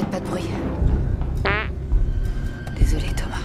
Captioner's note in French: Bruit de pet; en chuchotant